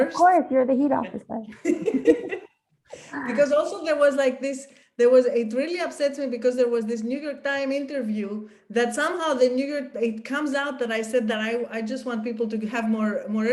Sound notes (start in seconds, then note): 1.5 laughs